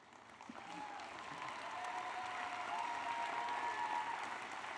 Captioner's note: applause